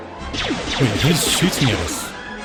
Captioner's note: gunshots